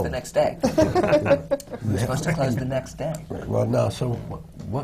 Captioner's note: laughs